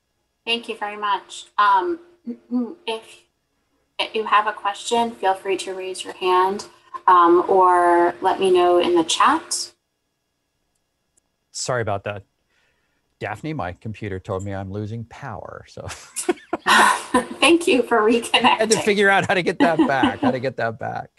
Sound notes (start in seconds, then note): 15.8 laughter